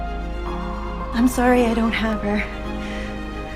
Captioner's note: voiceover